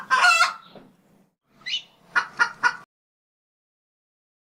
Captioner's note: rooster Crowing